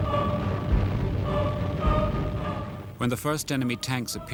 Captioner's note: engines roaring; dramatic symphonic music